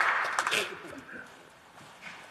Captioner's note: laughter; applause